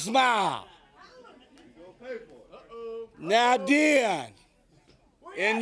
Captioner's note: crowd chatter